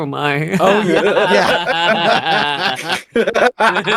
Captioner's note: laughing